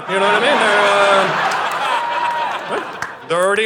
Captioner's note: audience laughing